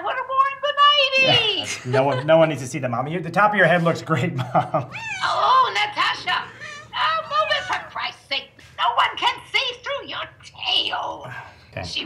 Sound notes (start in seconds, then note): 1.2 laughs; 4.1 laughs; 5.0 cat meows